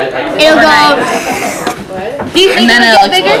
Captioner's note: sucking sound